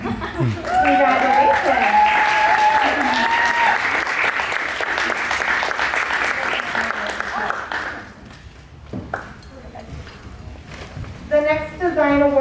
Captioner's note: cheers and applause